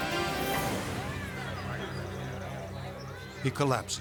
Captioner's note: onlookers chattering in foreign language